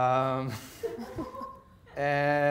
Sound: audience laughing

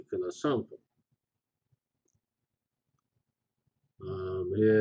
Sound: pause

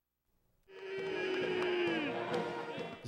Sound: crowd chants "bean!"

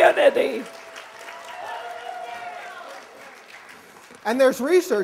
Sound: cheers and applause

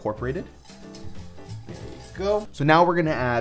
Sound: whisking

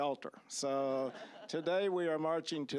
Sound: audience laughing

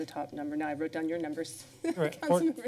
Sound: laughs

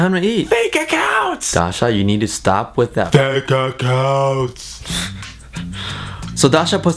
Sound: laughs

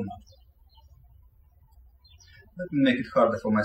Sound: birds chirping

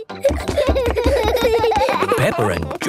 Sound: both giggling

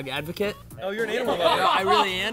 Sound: laughing

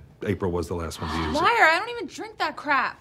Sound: sigh

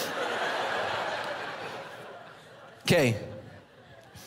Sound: congregation laughing

